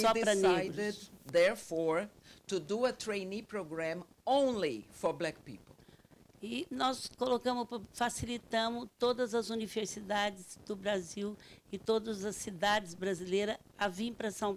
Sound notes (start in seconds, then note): 6.6 speaking Portuguese